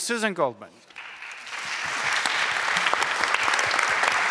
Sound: applause

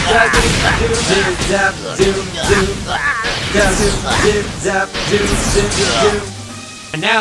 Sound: Gengar grunting; zooming and grunting continues

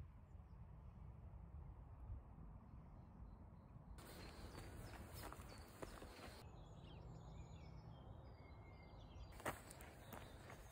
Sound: ambient nature sounds

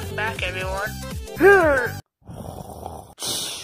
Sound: grunt

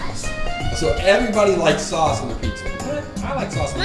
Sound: voiceover

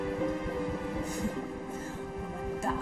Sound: snickers

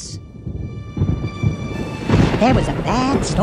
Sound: thunder rumbling and crashing

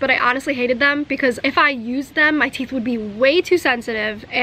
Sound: none

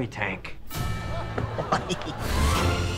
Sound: laughing

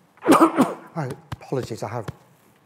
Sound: coughs

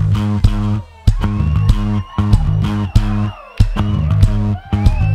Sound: audience cheers

